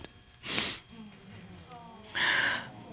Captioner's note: sniffs